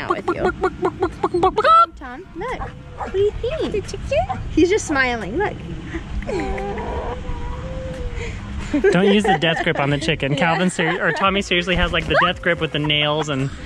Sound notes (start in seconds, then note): 0.1 mimics chicken; 5.7 laughing